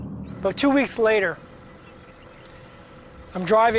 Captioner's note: car engine humming